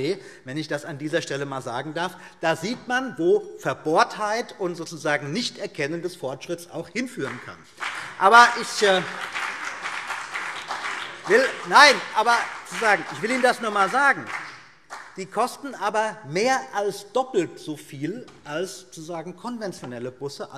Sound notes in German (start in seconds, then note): 7.6 Beifall BÜNDNIS 90/DIE GRÜNEN und vereinzelt CDU